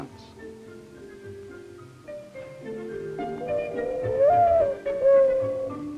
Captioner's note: mourning dove song